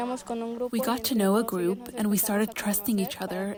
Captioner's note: through translator